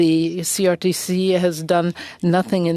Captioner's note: speaking French